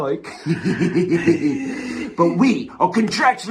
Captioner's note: giggle maniacally